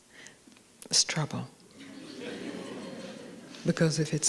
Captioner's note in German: Gelächter